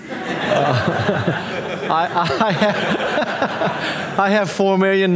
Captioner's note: audience laughing